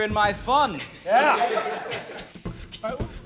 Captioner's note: laughter